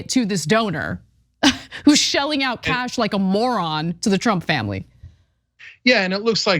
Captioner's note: laugh